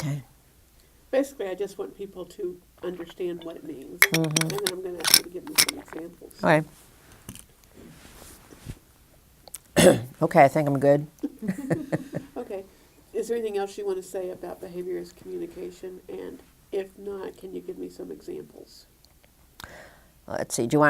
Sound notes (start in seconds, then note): 4.0 clinking; 11.2 laughter